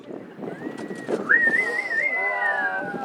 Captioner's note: passengers whistling